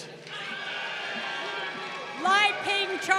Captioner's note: crowd cheering